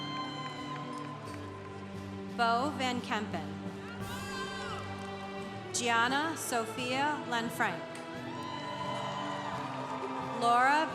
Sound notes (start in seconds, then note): 0.0 congregation applauding; 3.9 congregation applauding; 8.3 congregation applauding